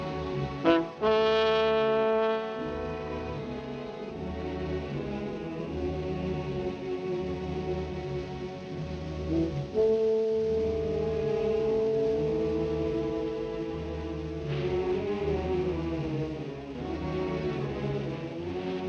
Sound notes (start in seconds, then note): 0.6 horn blowing; 2.9 gentle music; 9.3 horn blowing